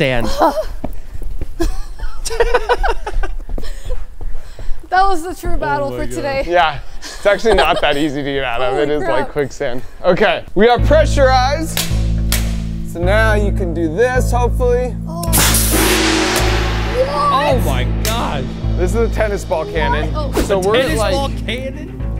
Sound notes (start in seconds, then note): 1.6 laughing; 11.8 cannon clacking; 11.8 suspenseful music; 15.2 gong crashing